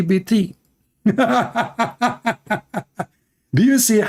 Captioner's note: Ketawa